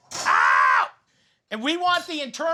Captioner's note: screams